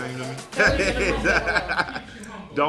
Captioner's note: laughing